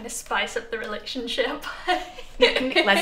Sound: chuckles

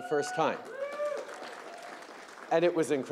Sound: applause

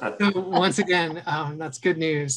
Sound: laughs

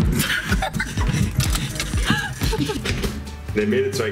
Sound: laughing

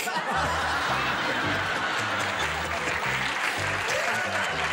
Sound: laughter and applause

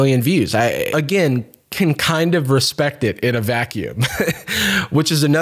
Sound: chuckles

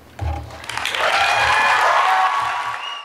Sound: audience cheers and applauds

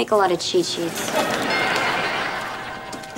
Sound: doorbell rings

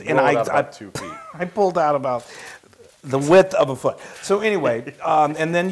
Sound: laugh

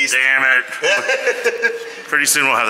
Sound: laughing

